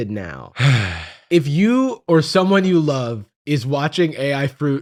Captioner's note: sighs